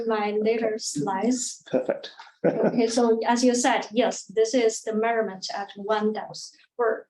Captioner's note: chuckles